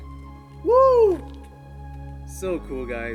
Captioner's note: holler